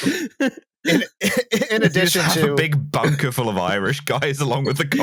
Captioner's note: renewed laughter; laughing; still laughing; laughing